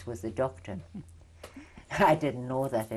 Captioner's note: laughs